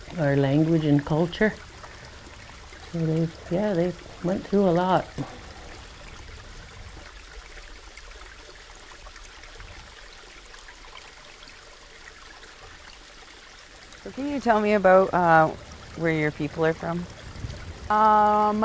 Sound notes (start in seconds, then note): 5.2 sound of running water